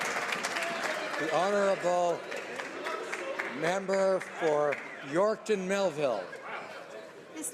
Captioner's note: some Applause